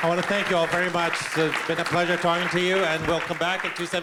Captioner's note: applause